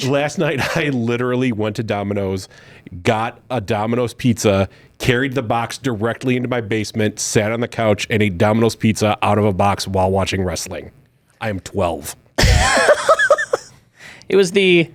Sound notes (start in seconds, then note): 12.4 laughs